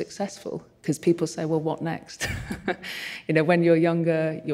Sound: chuckles

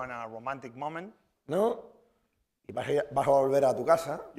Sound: speaking spanish

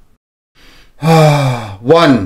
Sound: exhales

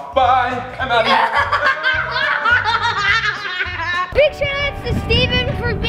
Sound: laughing

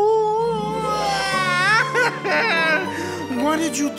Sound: crying

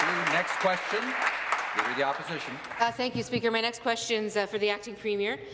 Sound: applause

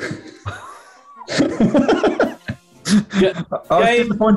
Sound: laughing

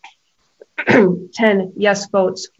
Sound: clears throat

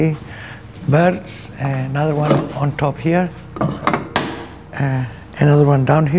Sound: cover rattles

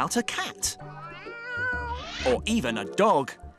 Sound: meow

